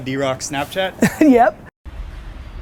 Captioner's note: laughs